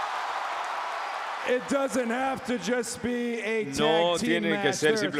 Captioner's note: applause